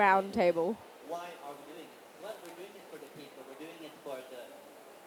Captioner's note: background chatter